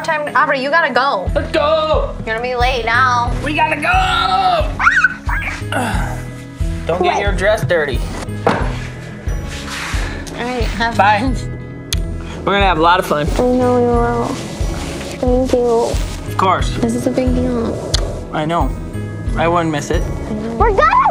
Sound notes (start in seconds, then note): 4.7 squeals; 8.2 door closes